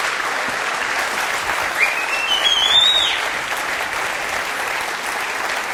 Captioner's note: whistling and applause